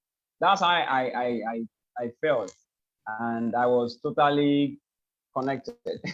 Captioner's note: laughs